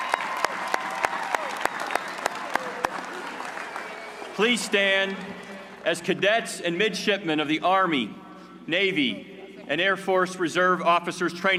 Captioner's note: cheers and applause